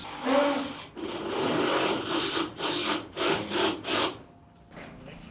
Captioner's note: drill buzzing